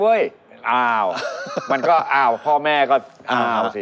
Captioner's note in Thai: หัวเราะ